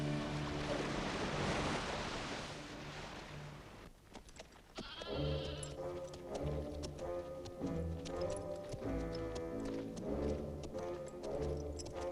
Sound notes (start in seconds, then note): 4.8 goats bleating; 4.8 austere music